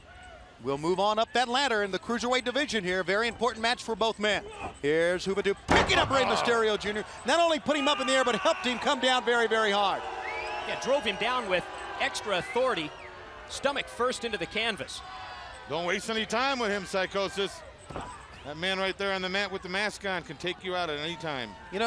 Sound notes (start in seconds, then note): 15.8 crowd cheering